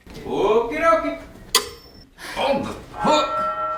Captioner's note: ring thuds